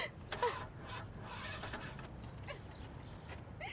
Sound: engine chugs

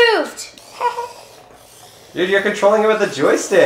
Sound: motor running

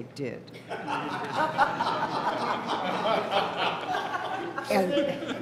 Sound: laughter

